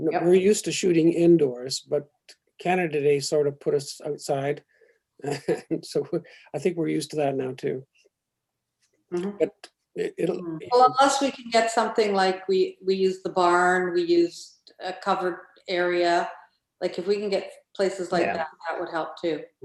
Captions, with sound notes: - Yes. - We're used to shooting indoors, but Canada Day sort of put us outside. (laughs) So I think we're used to that now, too. - But. - It'll. - Well, unless we can get something like we use the barn, we used a covered area. If we can get places like that, that would help too. - Yeah.